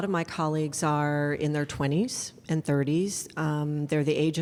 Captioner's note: none